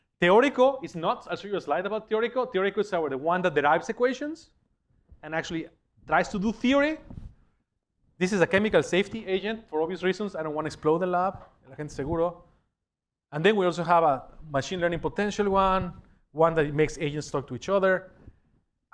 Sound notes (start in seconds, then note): 12.5 spanish